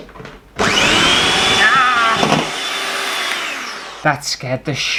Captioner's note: electric Whisk Motor